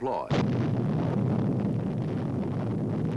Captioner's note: booming